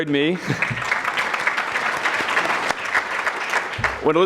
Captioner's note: audience clapping